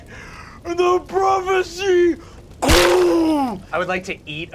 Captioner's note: fleshy splatter